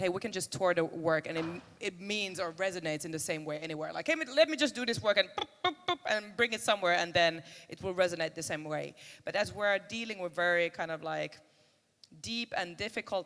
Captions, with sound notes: we can just tour the work and it means or resonates in the same way anywhere, like, hey, let me just do this work and [makes noise with mouth] bring it somewhere and then it will resonate the same way. But as we're dealing with very kind of like, deep and difficult